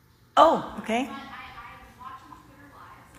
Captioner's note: off microphone